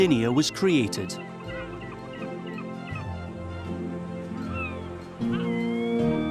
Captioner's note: seagulls cry